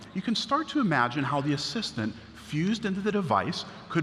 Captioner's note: none